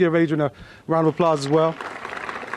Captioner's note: applause